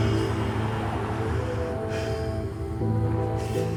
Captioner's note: Oscar groaning